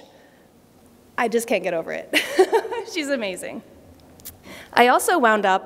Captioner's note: laughter